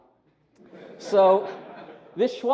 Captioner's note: laughter